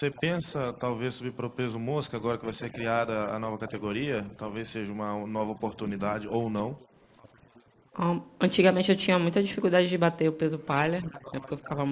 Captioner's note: speaking foreign language